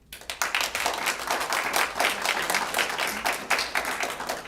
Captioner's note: applause